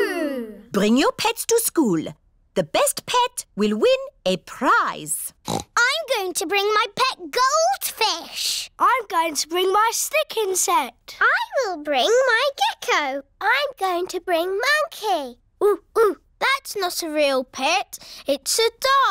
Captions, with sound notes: Bring your pets to school. The best pet will win a prize. (OINKS) I'm going to bring my pet goldfish. I'm going to bring my stick insect. I will bring my gecko. I'm going to bring Monkey. Oo-ooh! That's not a real pet. It's a doll.